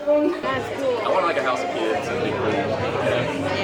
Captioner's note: crowd mumbling